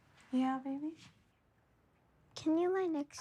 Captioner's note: none